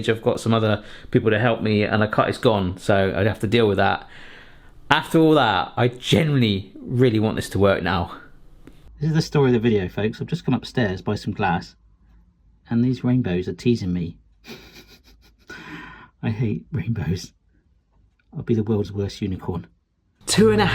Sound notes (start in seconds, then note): 14.4 chuckles softly; 20.5 soft tense music